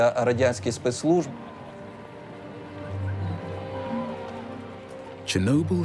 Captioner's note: crowd shouting distantly